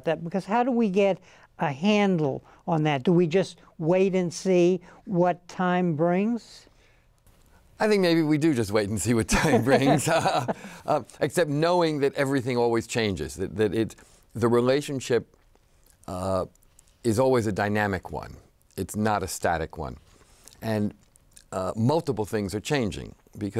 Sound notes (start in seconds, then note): 9.4 laughs